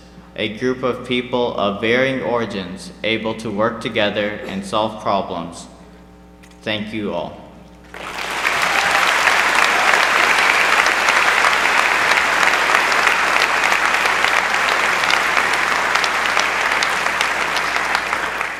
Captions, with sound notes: A group of people of varying origins able to work together and solve problems. Thank you all! (applause)